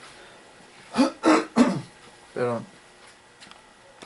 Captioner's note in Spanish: carraspeo